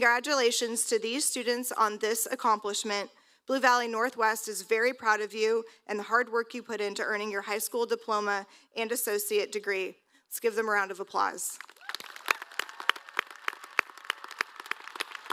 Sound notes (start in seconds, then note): 13.7 applause